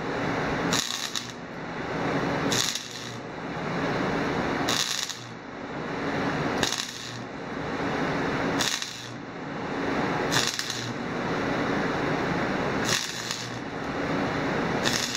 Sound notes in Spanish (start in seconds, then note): 3.8 Sonido chispas de soldadura